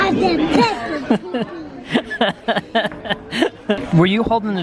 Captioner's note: laughs